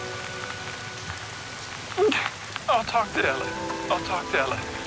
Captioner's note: voice breaking